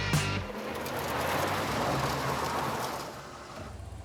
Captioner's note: tires whooshing